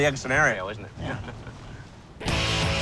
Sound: chuckles

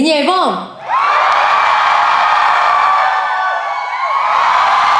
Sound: whoahhhh!!! Whoahhh!!!

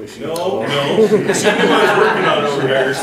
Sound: attendees laughing

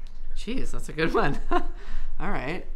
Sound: chuckles

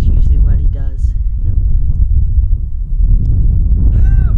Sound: wind blowing

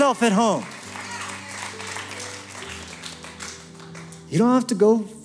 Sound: applause, cheering

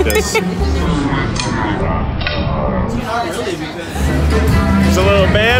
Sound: giggles; slow motion warbling

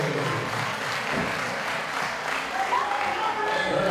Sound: applause

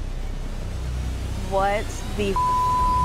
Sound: beeping

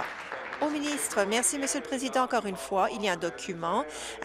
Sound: applause

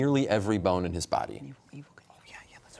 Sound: whispering

